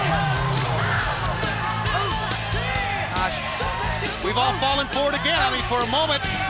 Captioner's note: crowd cheering